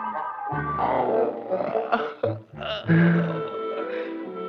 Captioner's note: door creaking; Casper yawning